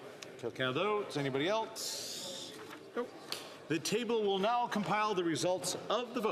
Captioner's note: calling of recorded vote